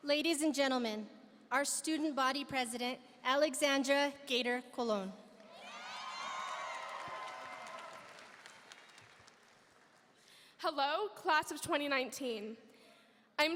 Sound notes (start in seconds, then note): 5.5 audience cheering; 5.6 audience applauding